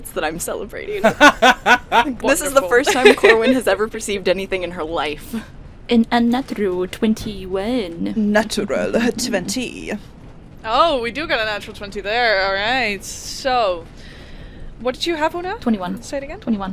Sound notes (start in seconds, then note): 1.0 laughter; 8.9 chuckles